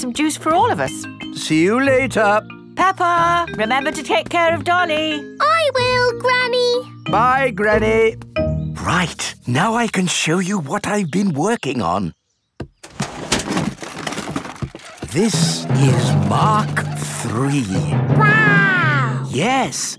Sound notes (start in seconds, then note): 12.8 clattering